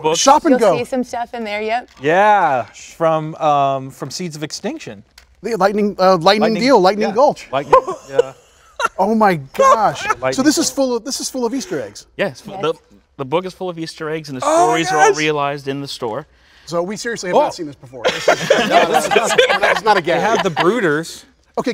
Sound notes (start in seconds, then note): 18.0 all laughing